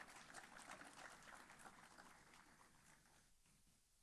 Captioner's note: applause